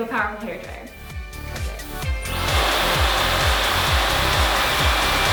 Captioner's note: hair dryer blowing